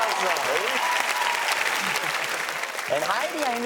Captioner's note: audience cheers and applauds